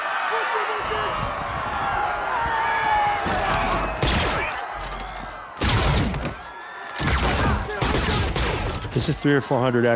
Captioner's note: yelling